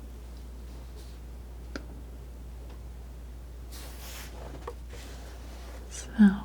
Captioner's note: scratching